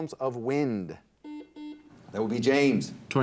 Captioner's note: buzzer dings